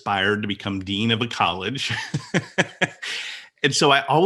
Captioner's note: laughs